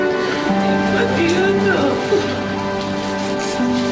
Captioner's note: sobbing